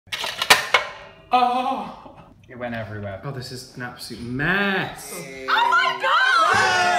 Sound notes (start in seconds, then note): 0.1 plastic clanks; 1.5 gasps